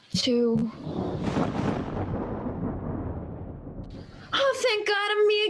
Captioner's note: thunder